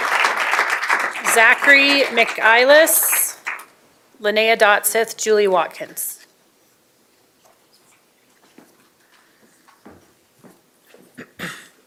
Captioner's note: applause